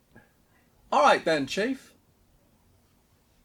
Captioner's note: arrogant accent